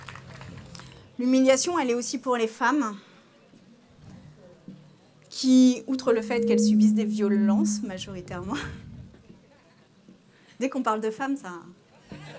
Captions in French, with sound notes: L'humiliation l'est aussi pour les femmes, qui outre le fait [bruit de larsen] qu'elles subissent des violences majoritairement. Dès qu'on parle de femmes ça...